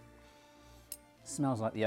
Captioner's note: loud inhale